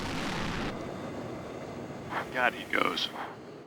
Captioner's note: radio transmission